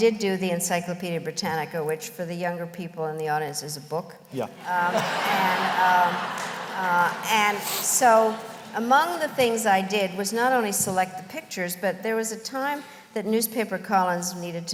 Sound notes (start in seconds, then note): 4.6 laughter